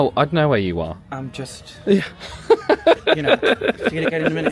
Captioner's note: laughs